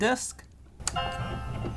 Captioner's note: button click; piano note plays